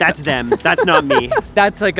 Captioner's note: laughs